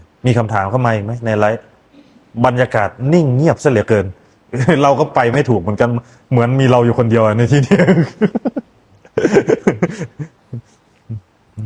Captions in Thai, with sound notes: มีคำถามเข้ามาอีกมั้ยในไลฟ์ บรรยากาศนิ่งเงียบซะเหลือเกินเราก็ไปไม่ ถูกเหมือนกันเหมือนมีเราอยู่คนเดียวในที่ เ[เสียงหัวเราะ]